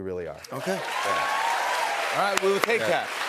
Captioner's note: cheers and applause